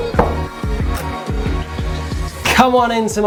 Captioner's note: upbeat music; door knocking